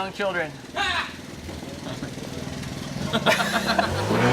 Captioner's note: employee laughs